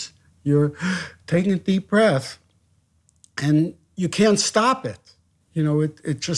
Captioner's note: inhales